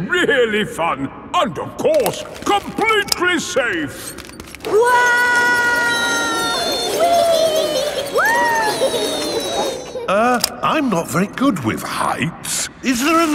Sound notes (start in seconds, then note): 5.2 all yelling